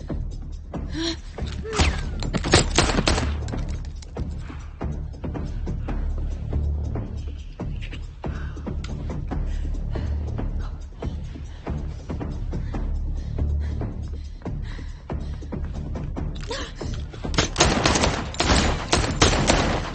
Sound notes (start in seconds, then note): 2.4 gun shots firing; 4.0 suspenseful music continues; 11.3 suspenseful music continues; 17.3 gun shots firing